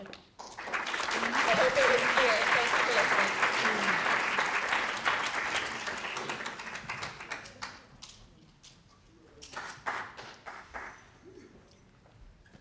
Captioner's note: applause